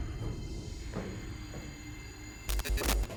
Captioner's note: creaking